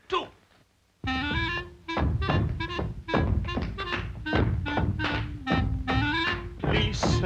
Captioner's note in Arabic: أقدام تدوس; تعزف على الكلارينيت